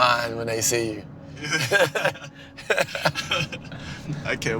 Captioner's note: both laughing